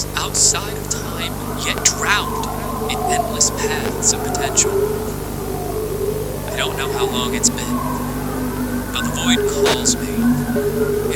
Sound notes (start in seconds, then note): 9.5 sounds of the void